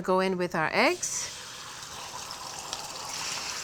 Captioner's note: loud sizzle